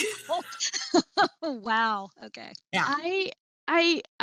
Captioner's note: chuckles